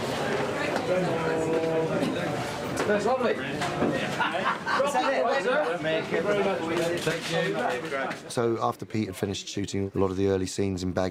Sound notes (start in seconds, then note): 3.4 chattering and laughing